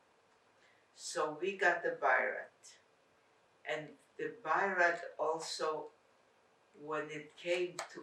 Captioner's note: non-english